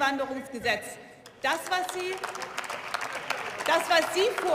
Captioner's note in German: Beifall